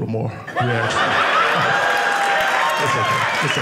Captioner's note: audience cheering